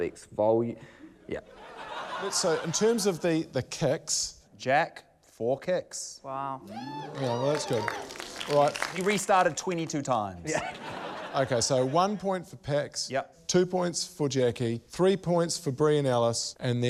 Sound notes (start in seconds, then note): 1.5 laughter; 10.4 laughter